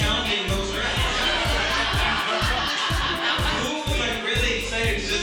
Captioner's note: audience laughing